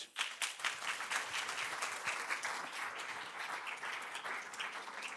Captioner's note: applause